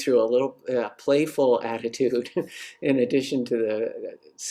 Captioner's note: chuckles